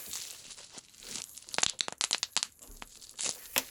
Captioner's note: popping sounds